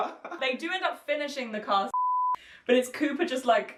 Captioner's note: laughing; beep